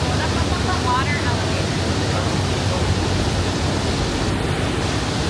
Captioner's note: water noises; water noises intensify